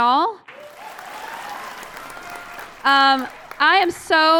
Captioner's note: applause